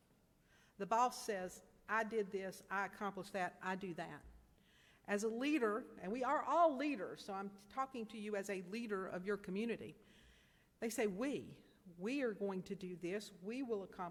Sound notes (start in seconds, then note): none